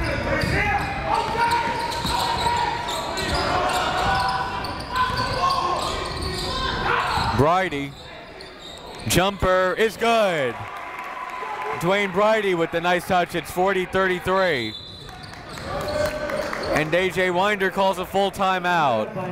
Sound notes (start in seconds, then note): 0.0 crowd talking; 0.1 coaches yelling; 9.8 crowd cheering; 14.6 whistle blows